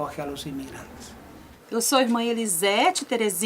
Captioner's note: speaking spanish